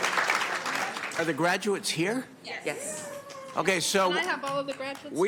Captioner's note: applause